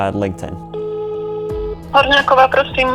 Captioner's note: ringtone humming; person speaking in foreign language